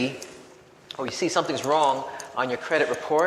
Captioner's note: none